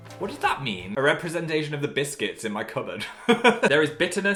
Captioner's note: laughs